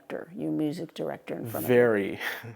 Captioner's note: laughs